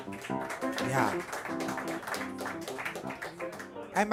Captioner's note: cheers and applause